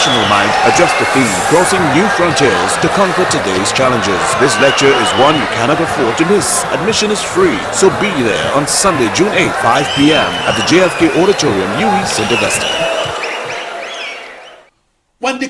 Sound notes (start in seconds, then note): 10.6 wild applause and cheering for 22 seconds